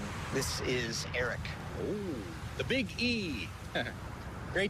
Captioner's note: chuckles